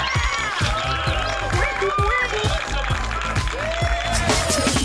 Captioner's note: crowd cheering and clapping